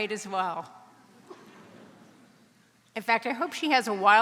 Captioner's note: audience members laugh